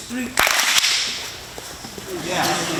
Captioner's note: all clap once